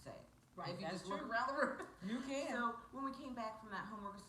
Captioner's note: laughs